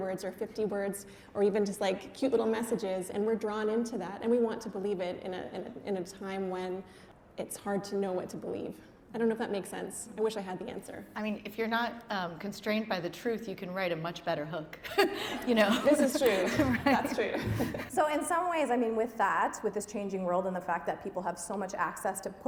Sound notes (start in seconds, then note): 14.9 laughing